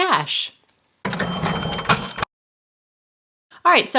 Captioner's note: cash register bell ringing